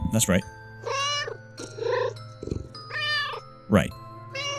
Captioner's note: meow; meow